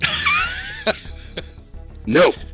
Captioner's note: laughs